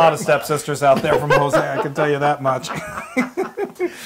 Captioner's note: laugh